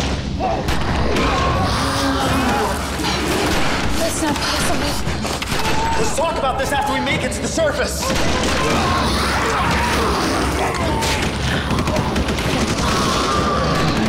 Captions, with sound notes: (mummy growling) - That's not possible. - Let's talk about this after we make it to the surface! (guns blasting) (mummies growling)